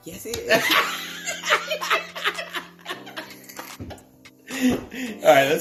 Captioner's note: laughter